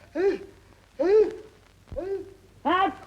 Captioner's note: Joan sneezing